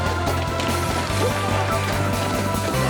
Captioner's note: grunting